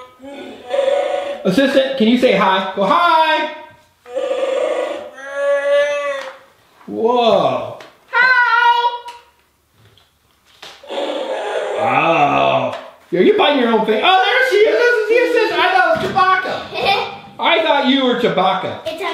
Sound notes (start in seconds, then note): 0.0 moaning; 4.0 moaning; 10.8 moaning; 16.6 girl laughs